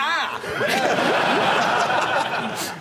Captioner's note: laughter